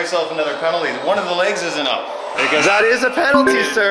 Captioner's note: buzzer